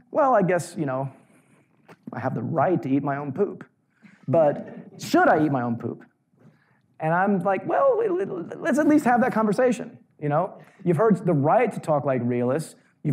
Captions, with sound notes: Well I guess, I have the right to eat my own poop. (audience laughing mildly) But, should I eat my own poop? And I'm like well, let's at least have that conversation. You've heard the right to talk like realists,